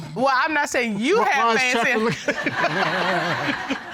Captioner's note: audience laughing